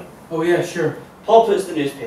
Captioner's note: fast-spoken